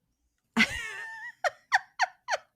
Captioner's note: laughs